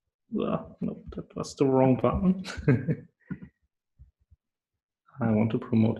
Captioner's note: chuckle